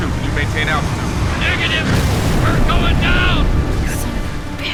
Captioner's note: radio